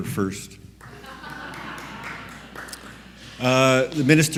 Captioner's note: audience laugh